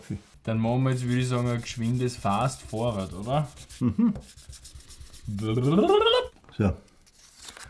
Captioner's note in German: macht ein komisches "futuristisches" Geräusch